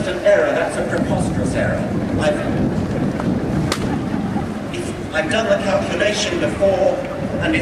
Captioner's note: laughter